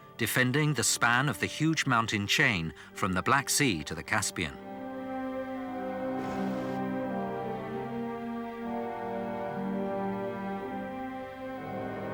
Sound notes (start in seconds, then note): 6.4 guns firing; 8.3 stirring symphonic music